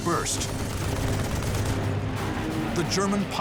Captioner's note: gunfire